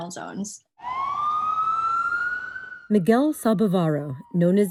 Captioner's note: ambulance sirens